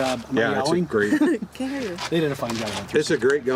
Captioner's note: laughs